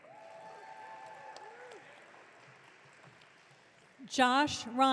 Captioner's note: audience cheering